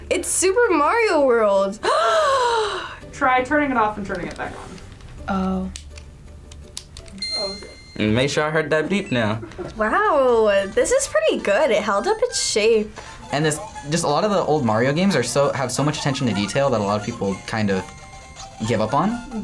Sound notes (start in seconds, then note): 1.8 gasps; 7.2 Game Boy chimes